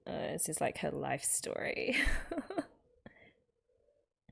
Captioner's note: laughs